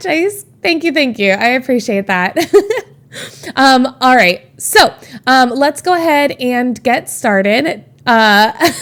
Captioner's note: Emma laughs